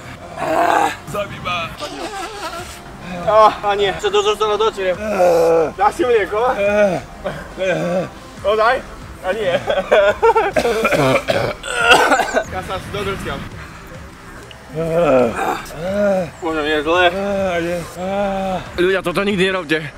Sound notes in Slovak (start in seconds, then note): 1.8 smrrk; 5.1 hlasný povzdych; 9.4 dusený smiech, doslova; 14.8 zvuk párenia korytnačiek 100x pomalšie